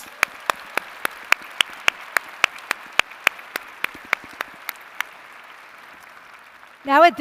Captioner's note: applause